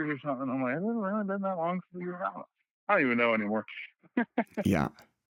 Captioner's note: laughter